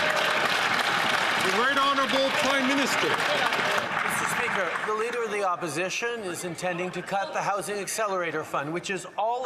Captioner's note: some Applause